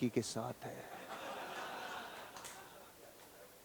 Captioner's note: laughing